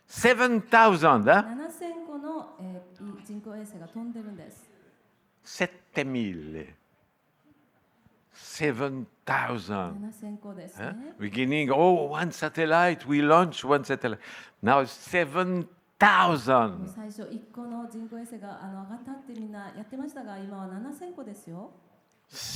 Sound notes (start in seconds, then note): 6.9 in Italian